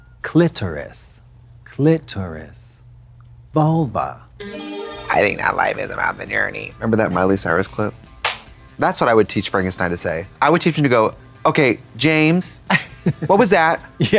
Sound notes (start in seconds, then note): 4.4 bright chime